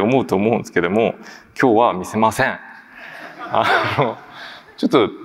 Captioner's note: laughs